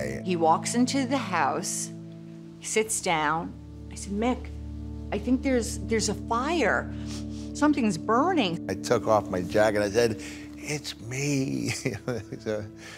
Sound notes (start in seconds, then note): 6.9 sniffs; 11.6 laughs